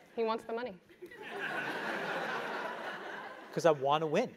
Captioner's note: laugh